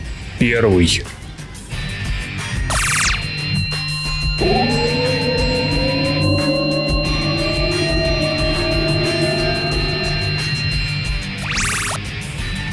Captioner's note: sounds of portal opening and closing